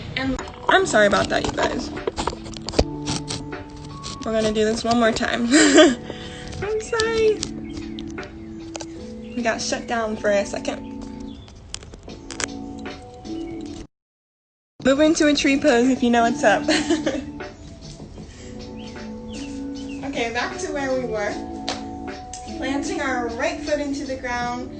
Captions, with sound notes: I'm sorry about that you guys. We're gonna do this one more time. I'm sorry! We got shut down for a second. Move into a tree pose if you know what's up (laughs). Okay back to where we were, planting our right foot into the ground,